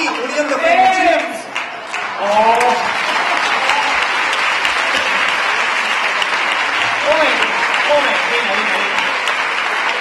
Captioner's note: laughter and cheers